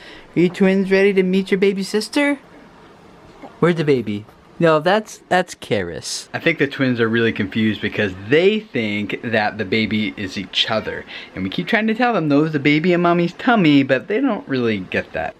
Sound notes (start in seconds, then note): none